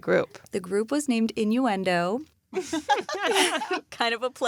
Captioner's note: laughs